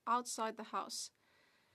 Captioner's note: speaking French